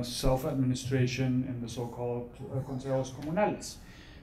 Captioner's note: speaks foreign language